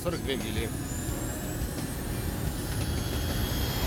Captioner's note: jet engine roars